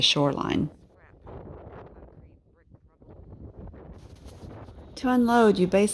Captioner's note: wind blowing